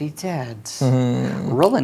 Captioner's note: chuckles